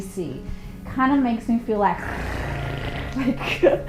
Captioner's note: purring